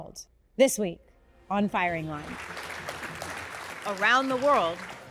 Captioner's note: audience applauds